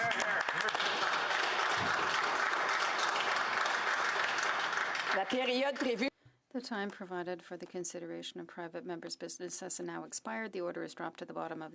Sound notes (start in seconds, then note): 6.4 applause; 8.7 speaking French